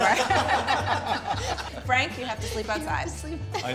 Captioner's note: all laughing